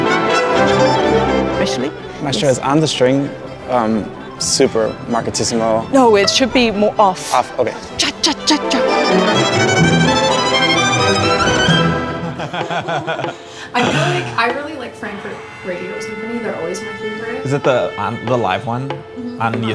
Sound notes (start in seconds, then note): 9.1 intense symphonic music; 12.0 everybody laughs